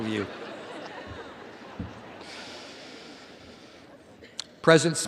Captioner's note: audience laughs